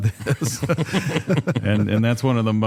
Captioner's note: laughter